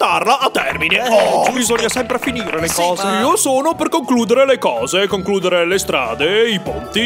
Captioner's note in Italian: applausi